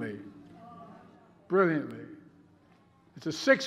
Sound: participants groaning

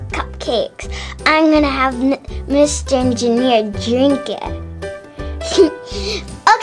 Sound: laughs

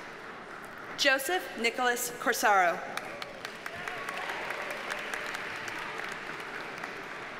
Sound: audience cheers and applauds

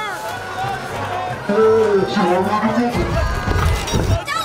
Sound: groaning

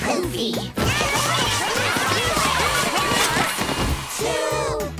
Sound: yelling

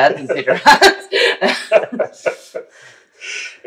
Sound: laughter

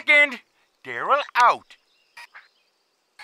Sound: button clicks

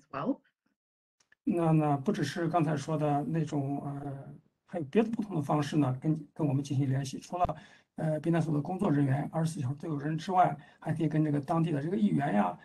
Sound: speaks in Mandarin

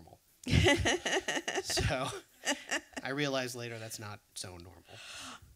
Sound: laughs

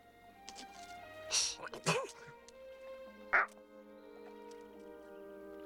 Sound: sneezes

